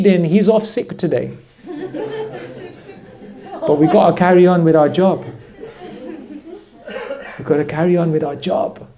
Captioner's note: laughter